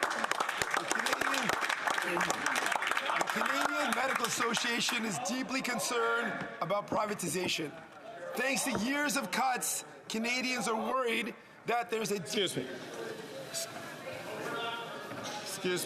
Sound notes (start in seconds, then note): 6.1 some Applause